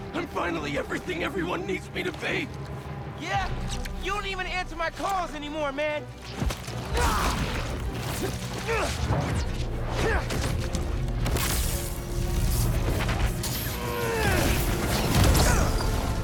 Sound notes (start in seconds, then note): none